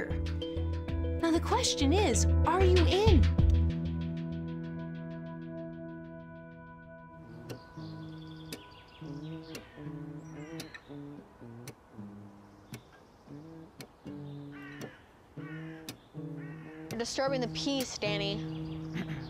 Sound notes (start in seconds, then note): 7.7 strumming guitar; 9.0 humming